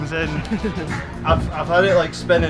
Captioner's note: laughing